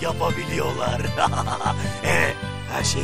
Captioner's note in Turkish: gülme sesi̇